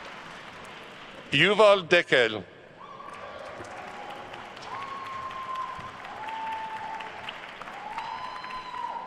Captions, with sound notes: Yuval Dekel. (attendees cheering and applauding)